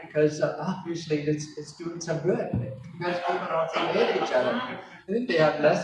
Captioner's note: laugher